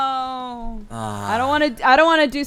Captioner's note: cry